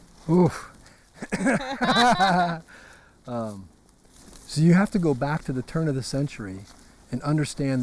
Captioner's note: laugh